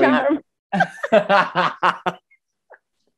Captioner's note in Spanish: risas